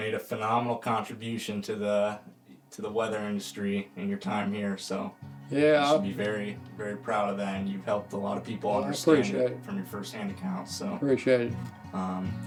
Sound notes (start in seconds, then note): none